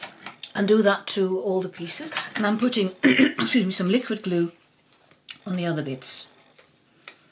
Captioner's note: coughs excuse me